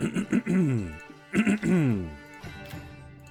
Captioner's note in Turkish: boğazını temizler